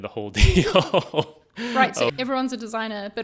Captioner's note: laughing